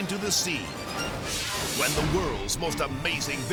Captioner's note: screen exploding